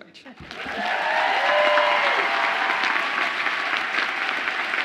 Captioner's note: audience applauds and cheers